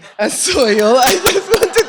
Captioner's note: laughter